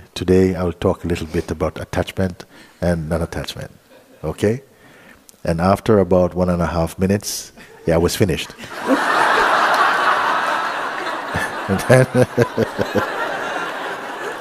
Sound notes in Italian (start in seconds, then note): 11.1 Risate